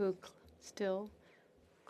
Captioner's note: speaking French